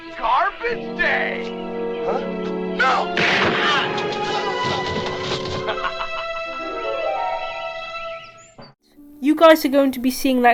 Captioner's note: gunshot